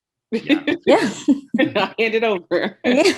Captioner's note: giggling